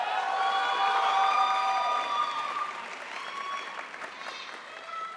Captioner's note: crowd applauds